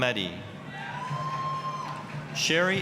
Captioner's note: applause, cheering